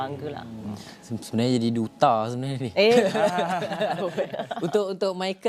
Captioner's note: laugh